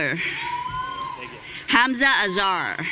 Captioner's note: audience cheering